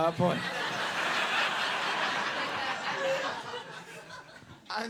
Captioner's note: audience laughs